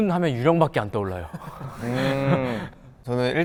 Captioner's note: hahahaha